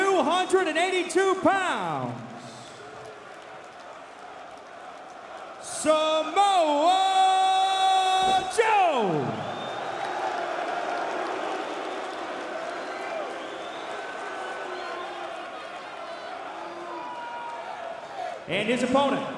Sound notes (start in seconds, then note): 10.0 crowd cheering; 11.6 crowd chatter